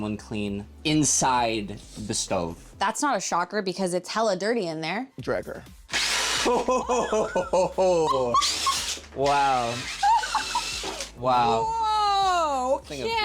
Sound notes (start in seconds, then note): 6.5 laughs